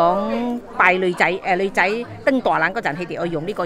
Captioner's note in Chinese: 廣東話